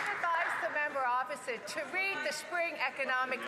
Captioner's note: some Applause